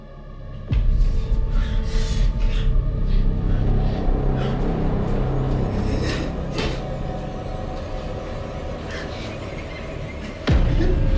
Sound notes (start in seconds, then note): 0.2 tense music; 4.6 Wes gasping